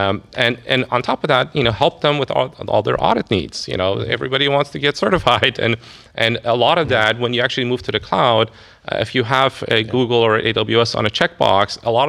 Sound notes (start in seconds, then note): 5.6 laughs